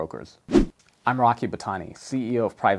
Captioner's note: air whooshes